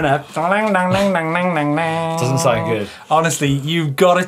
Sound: mimics banjo

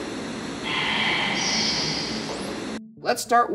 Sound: disembodied Voice

